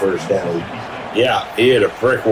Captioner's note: crowd Noises